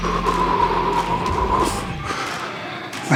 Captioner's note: shivering